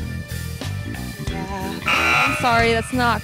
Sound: buzzer sound

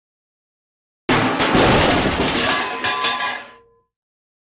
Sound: metal crashing

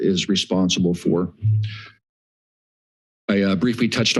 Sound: pause

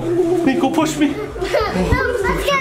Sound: audio whistling; grunts; panting

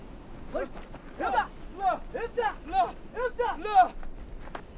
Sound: speaking foreign language

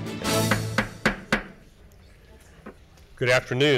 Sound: gavel bangs

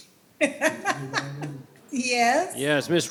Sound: laughs

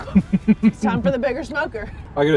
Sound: laughs

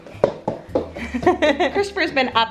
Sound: laughing

